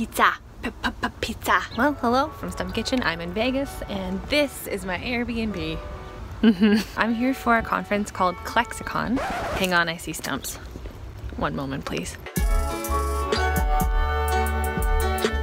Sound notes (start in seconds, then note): 6.4 laughs; 9.1 record scratches; 12.2 smooth music